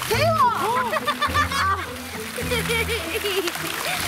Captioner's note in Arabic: يضحك